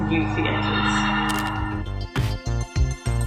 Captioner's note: shutter